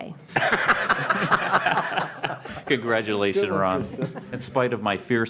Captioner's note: laughter